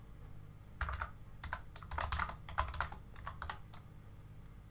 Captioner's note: keyboard typing